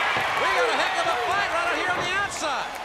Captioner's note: crowd cheering